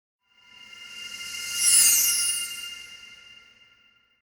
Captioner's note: logo whooshing